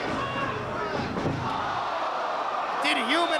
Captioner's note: spectators exclaiming